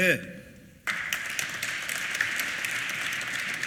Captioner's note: applause